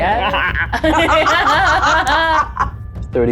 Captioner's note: chuckles; laughs